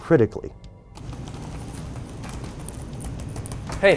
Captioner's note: clicking, typing